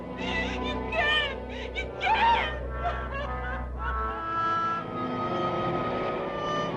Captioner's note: sobbing